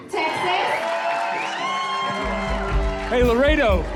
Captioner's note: cheering and applause